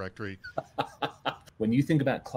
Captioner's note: laughs